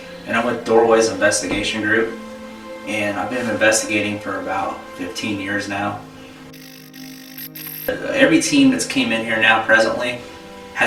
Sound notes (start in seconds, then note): 6.4 static fizzing